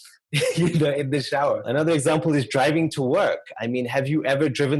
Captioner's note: laugh